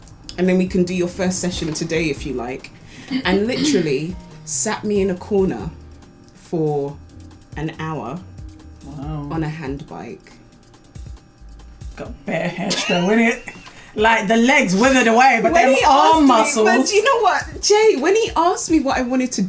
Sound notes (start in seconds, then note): 12.3 laughs